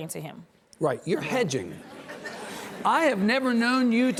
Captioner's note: audience laughs